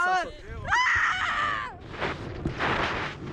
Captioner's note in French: elle crie